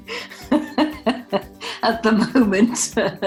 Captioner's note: laughs